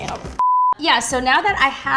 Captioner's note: beep